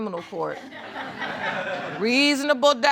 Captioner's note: audience laughs